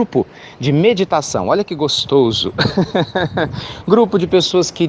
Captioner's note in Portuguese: Risos